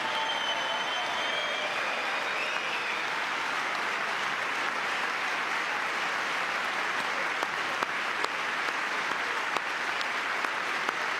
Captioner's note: cheering; applause